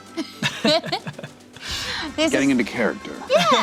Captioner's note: laughs